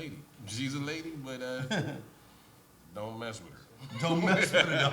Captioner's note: laughs